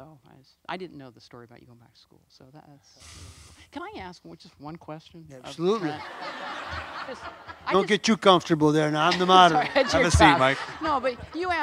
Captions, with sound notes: So I didn't know the story about you in high school. Can I ask just one question? - Absolutely. (audience laughs) Don't get too comfortable there now, I'm the moderator! - That's right, that's your job. - Have a seat, Mike.